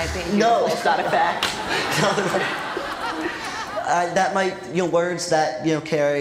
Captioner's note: laughter